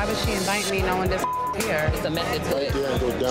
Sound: beep

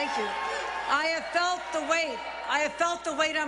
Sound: cheers and applause

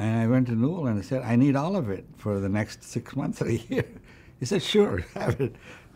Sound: laughs

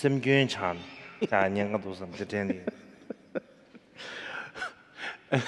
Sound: interpreter laughs

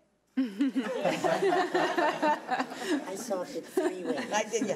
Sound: laughing

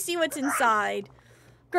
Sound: Donald Squawks

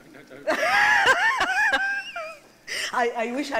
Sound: laughs

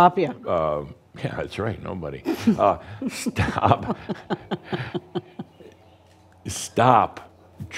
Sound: they chuckle

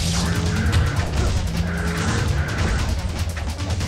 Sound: grunts

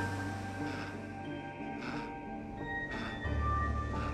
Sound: panting

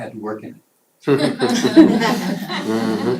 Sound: laughter

